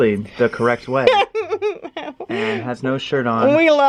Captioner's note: laughs